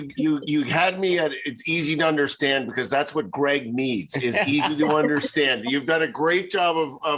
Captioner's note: laughs